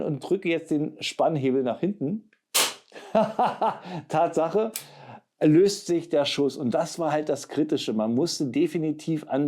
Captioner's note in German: gelächter